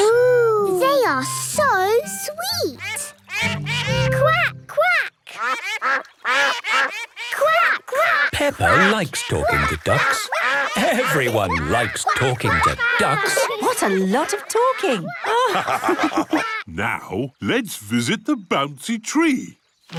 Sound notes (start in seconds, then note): 2.7 all laugh; 5.5 quacking; 15.5 all laugh